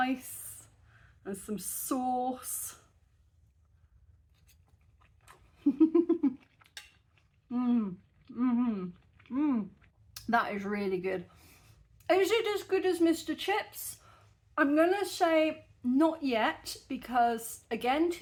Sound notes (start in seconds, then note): 5.5 chuckling; 8.2 happy mouth noises